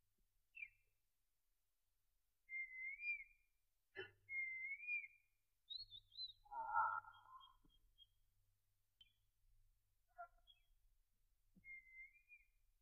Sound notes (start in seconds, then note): 6.4 yawns